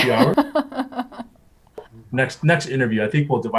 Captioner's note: laughs